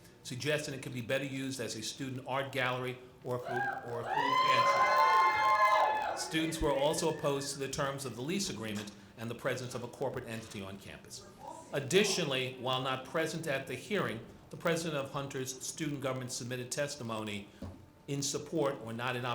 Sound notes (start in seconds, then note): 3.4 audience screaming